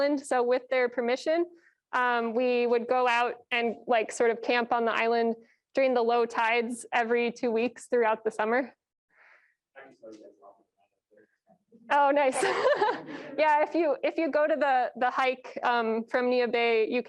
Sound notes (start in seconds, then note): 9.7 murmurs; 12.3 laughs